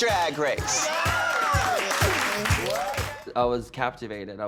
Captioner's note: cheering